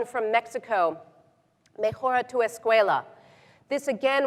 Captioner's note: speaking in foreign language